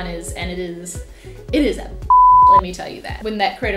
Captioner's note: beep